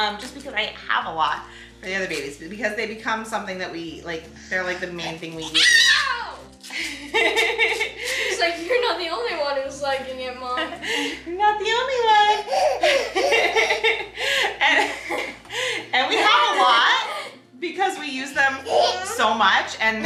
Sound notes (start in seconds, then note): 4.5 squeals; 6.7 laughs; 12.3 everyone laughs